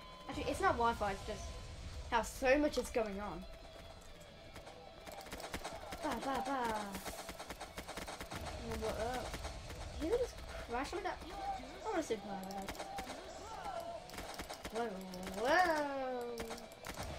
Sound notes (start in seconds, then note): 6.6 representing gun shots